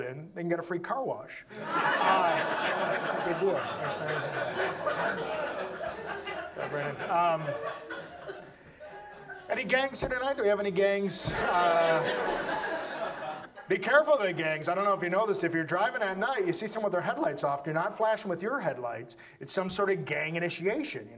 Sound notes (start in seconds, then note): 3.4 audience laughs; 11.8 audience laughs